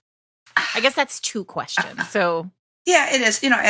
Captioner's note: Ms. Bev gives a throaty laugh